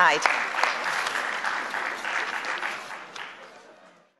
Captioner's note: applause